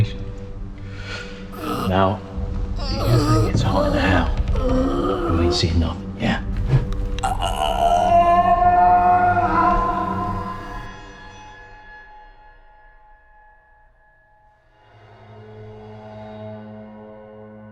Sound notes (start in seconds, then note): 7.2 muffled scream